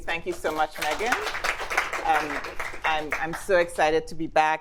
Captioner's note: attendees applauds